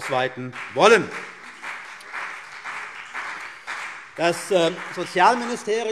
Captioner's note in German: Beifall CDU und BÜNDNIS 90/DIE GRÜNEN